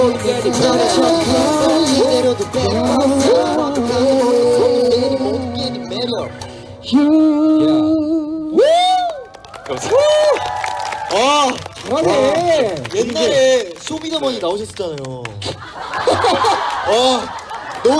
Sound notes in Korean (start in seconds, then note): 8.6 환호; 15.4 웃음